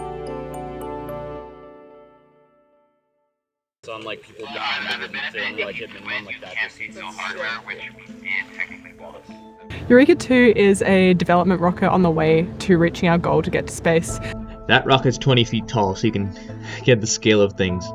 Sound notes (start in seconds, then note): 3.8 chatter over radio